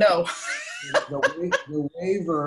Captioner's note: laughs